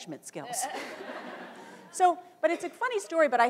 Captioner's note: laughter